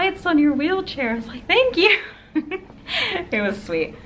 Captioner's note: laughs